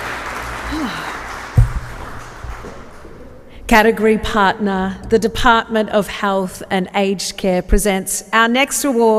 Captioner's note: applause